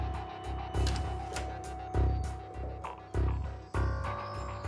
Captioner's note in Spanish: sonido al abrir la puerta